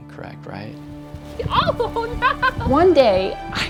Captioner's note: laughing